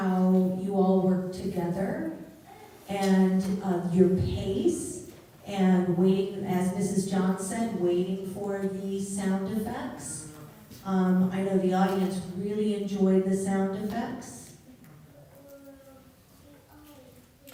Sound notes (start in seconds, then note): none